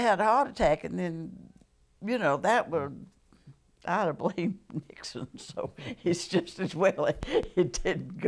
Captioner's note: laughter